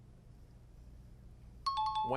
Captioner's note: timer